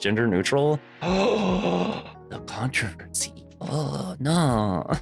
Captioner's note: gasp